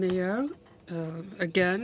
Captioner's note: speaking in french